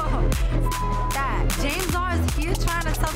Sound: beep

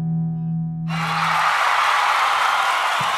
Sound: applause

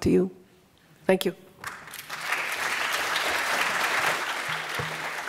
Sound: applause

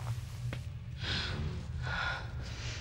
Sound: gasps

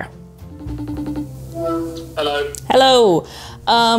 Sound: phone rings

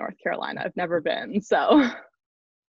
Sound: laughs

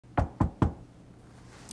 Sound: knocking

